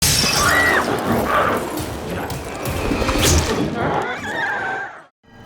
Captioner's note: Chalee screams; glass shatters; glowzie shrieks